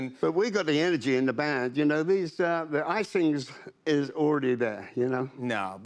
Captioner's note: none